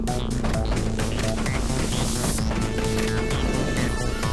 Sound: footsteps clacking

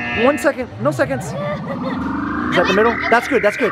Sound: machine beeping

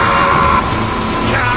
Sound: Vegeta still screaming with rage

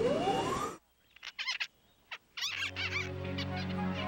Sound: squirrels Chattering

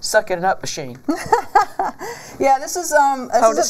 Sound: laughs

